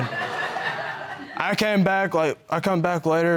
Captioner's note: audience laughing